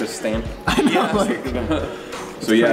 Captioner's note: laughs